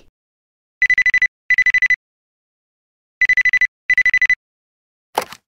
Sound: phone ringing

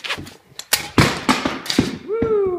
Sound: clank

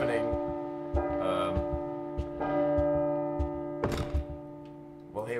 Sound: clock chiming

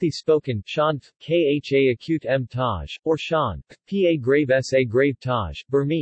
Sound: Khamti spoken

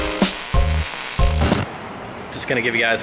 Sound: static

